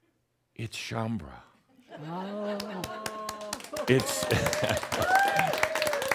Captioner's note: some chuckles and applause